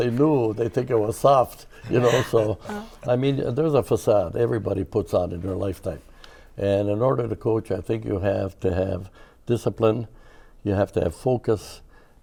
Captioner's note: laughter